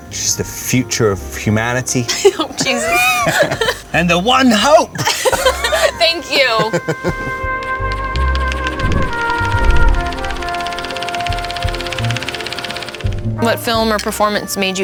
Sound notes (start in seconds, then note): 4.9 both laughing; 7.6 film whirring